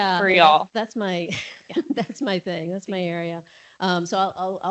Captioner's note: chuckles